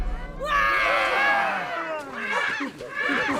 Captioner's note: everybody screams in fear